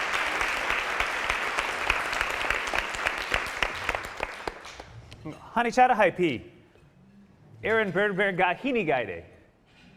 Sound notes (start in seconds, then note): 6.0 speaking Ho-Chunk; 8.5 speaking Ho-Chunk